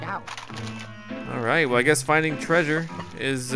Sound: voiceover

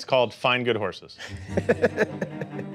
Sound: laughter

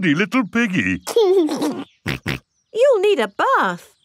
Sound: giggles and snorts

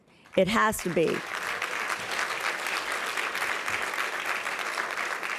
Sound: applause

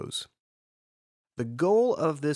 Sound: pause

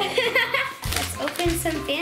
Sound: laughing

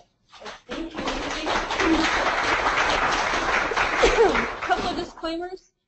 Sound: applause

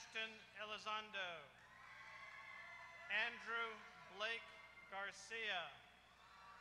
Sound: applause

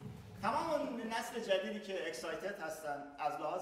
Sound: speaking in farsi

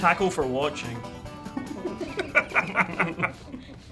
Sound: laughing

